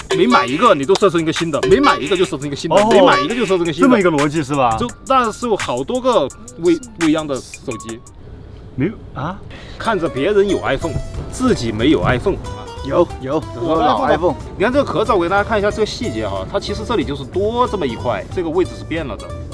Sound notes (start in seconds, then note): 14.2 haha